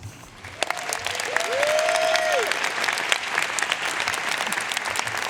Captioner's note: audience cheering and applauding